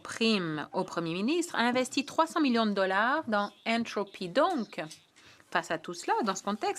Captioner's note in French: voix de l'interprète